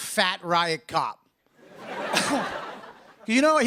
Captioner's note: laughter